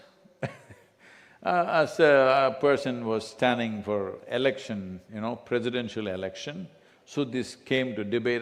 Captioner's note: laughs